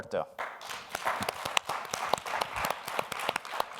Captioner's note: applause